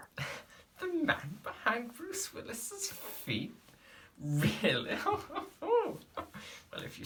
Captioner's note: laughs